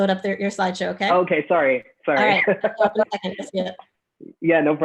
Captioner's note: laughs